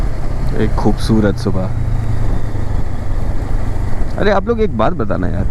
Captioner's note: engine thrum; engine thrum